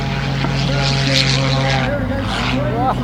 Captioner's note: engine noise